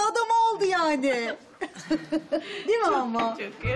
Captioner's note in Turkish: Gülme sesi